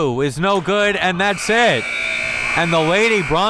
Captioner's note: buzzer ringing